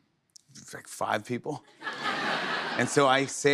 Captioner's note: laughter